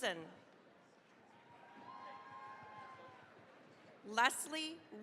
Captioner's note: cheering, applause